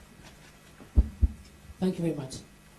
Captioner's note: taps on mike